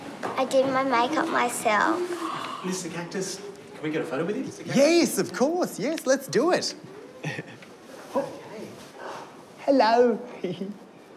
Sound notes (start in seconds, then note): 7.1 laughs; 10.3 giggles